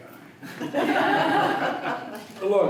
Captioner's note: laughter